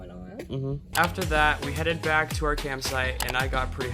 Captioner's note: voiceover